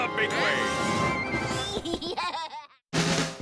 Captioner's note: Milo laughs; upbeat music